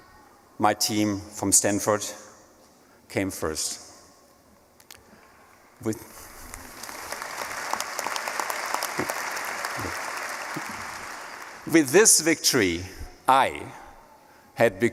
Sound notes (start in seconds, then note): 6.4 applause